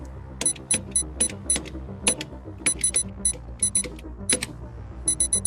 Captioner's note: typing